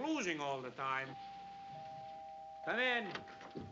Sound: doorbell rings

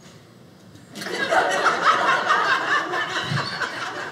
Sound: audience laughing

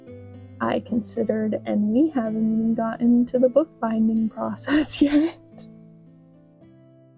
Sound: pained laughter

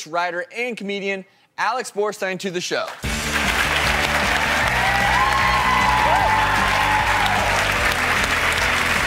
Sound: applause

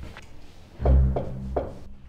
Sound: knock

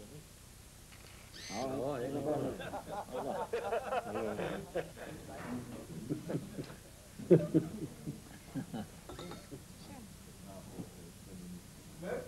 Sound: background chatter and festive laughter continous

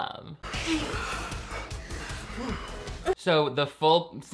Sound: both panting

